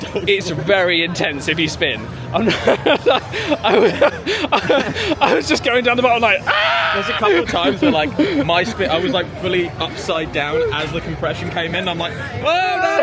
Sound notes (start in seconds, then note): 2.3 laughs; 6.5 screams